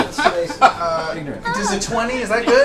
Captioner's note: laughter